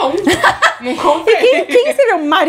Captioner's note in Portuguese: risos